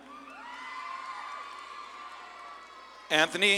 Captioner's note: audience claps and cheers